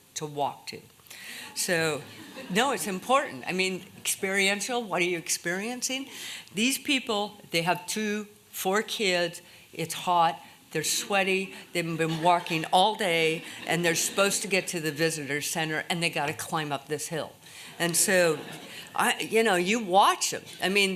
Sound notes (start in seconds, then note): 2.0 laughter